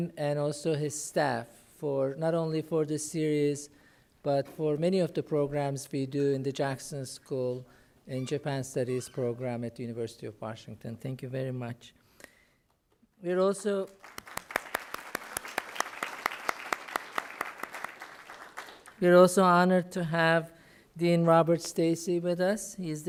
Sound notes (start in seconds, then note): 13.8 applause